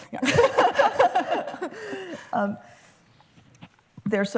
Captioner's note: laughter